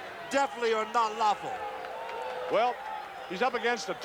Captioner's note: crowd cheers